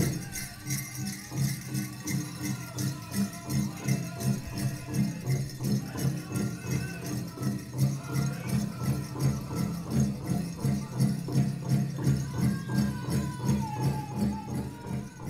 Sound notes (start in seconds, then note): 1.0 chanting; 1.0 upbeat drum music